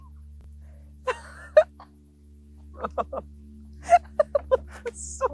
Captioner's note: laugh